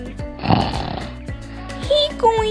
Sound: snoring!

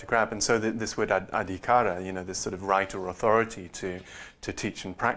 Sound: non-english

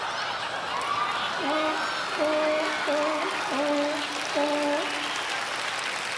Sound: seal sounds

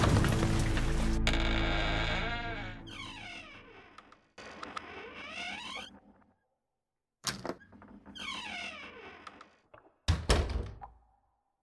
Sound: door creeks, water drips in the background

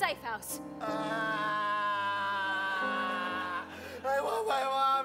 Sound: Curt wailing

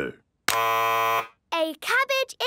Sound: buzzes

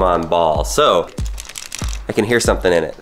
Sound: rattling

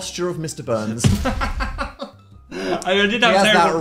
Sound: Phil laughs

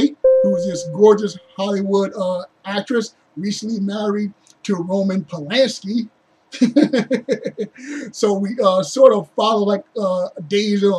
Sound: uneasy grunt

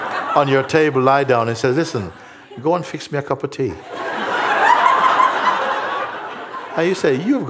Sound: laughter

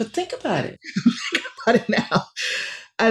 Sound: laughing

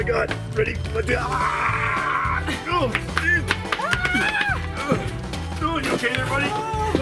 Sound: grunts

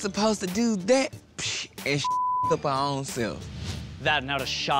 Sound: beep

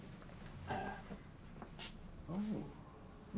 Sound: clearing throat

